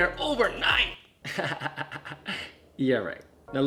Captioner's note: laughing